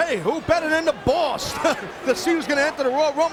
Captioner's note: laughs